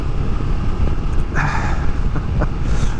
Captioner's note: sigh